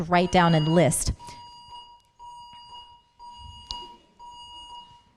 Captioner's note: continuous beep